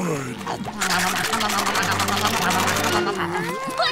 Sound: chomping

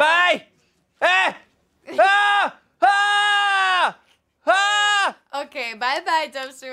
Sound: Dumpster Wizard yelling

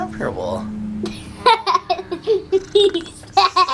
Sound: laughing

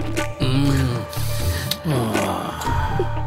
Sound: sniffs

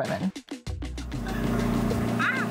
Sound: car engine roaring

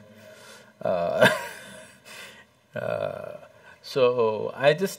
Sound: laughs

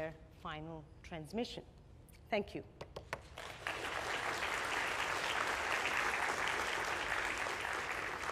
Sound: applause

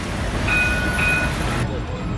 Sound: tram bell

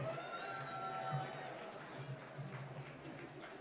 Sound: applause

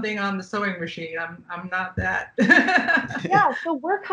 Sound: laughing

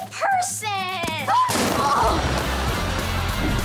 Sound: thudding

